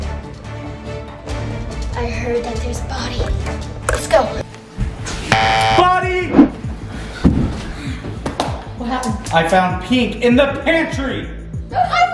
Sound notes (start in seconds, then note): 5.3 buzzing